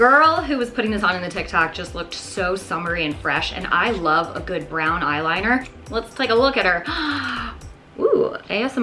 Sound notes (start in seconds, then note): 6.8 gasps